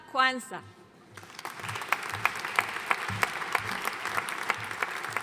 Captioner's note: audience applauding